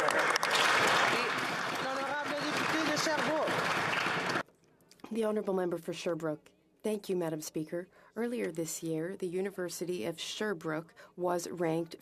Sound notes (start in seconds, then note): 3.7 some Applause